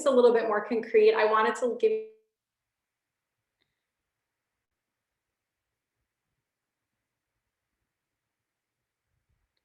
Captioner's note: audio cuts off